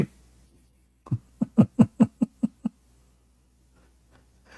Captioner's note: Ketawa